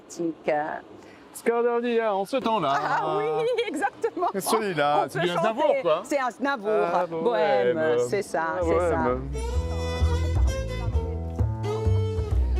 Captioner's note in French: rires